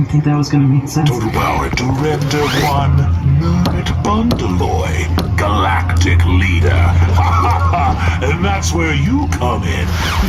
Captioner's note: laughs